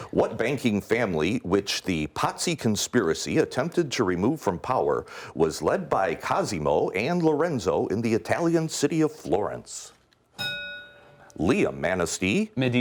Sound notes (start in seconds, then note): 10.4 ding